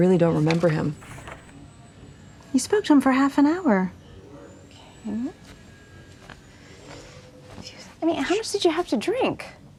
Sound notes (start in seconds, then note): 6.7 whispering